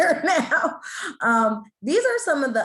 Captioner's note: laughs